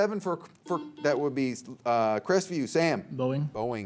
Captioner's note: buzzer beeps